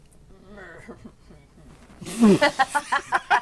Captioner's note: guttural noise of agreement; laughter